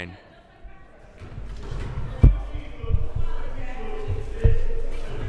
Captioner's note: crowd murmuring